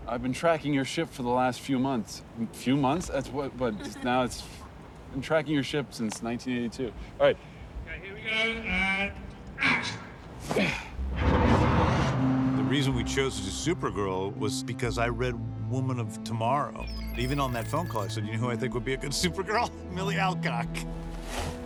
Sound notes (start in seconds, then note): 3.0 giggles; 9.6 sighs